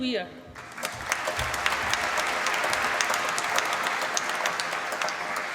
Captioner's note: applause